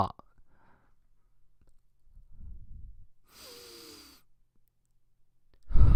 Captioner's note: inhale